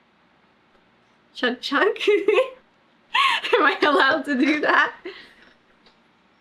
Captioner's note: laughs